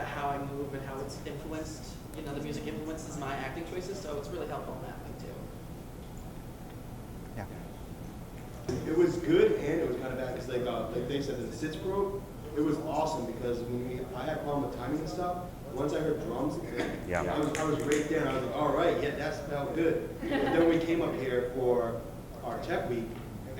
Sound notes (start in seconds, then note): 20.2 laughter